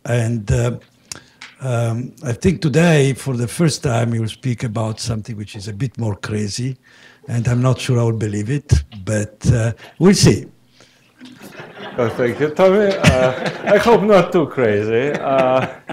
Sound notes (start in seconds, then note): 11.2 laughter